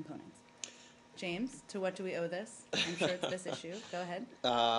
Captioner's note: laughter